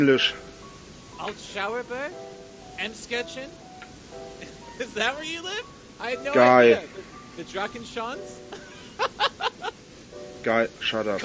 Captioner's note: laughs